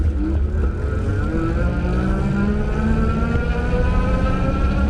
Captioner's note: bike engine roaring